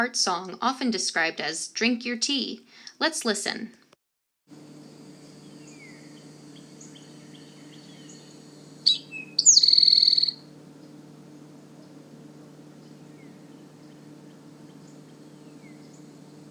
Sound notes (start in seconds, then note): 8.2 Eastern Towhee singing; 11.6 long pause